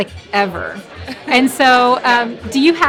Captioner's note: laughing